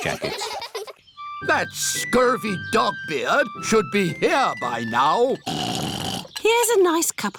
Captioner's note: oinks